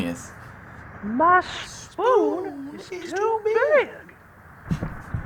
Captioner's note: reciting along; chuckles